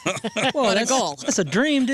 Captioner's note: laughter